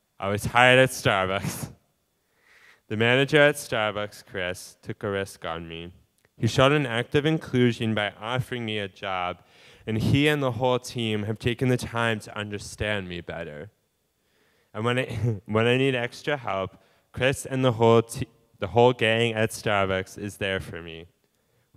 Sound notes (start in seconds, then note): 15.0 laughing